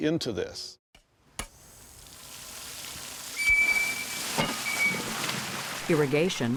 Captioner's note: water gushing out